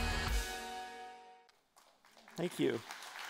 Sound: applause

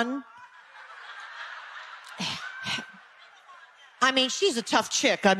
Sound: audience laughing

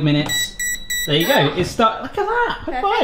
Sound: oven beeps

